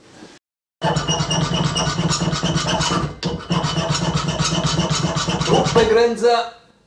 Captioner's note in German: lautes Feilen